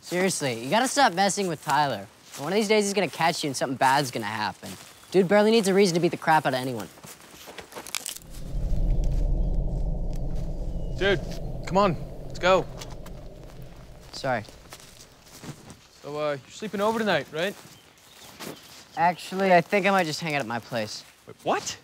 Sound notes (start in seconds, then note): 7.4 twig cracks